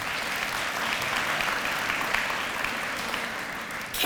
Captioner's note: applause